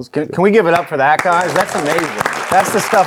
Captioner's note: audience applauding